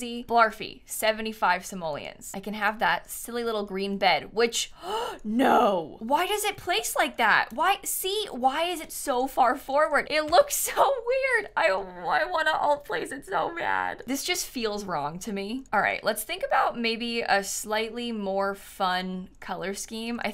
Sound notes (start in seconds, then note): 4.8 gasps